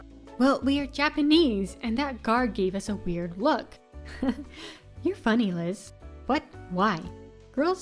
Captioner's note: giggle